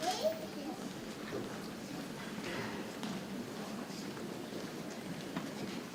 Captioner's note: people chattering softly